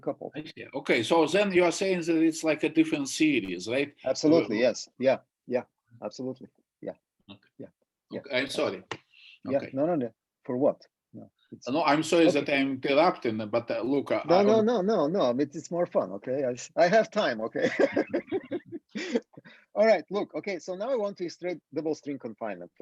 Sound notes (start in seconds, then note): 17.6 laughing